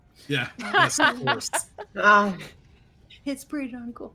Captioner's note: laughs